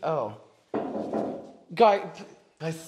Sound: more Knocking

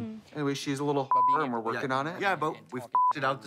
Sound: beep

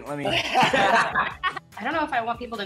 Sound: laughing

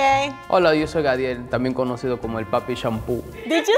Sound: speaking in foreign language

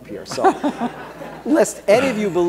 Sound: laughter

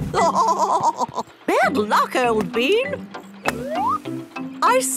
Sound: laughing

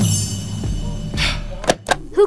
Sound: scoffs

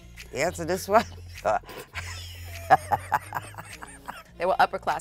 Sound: both laughing

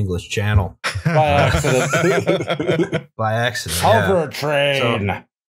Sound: laughter

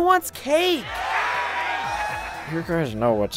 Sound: ponies cheer

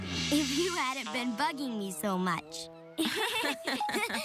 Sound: both laugh

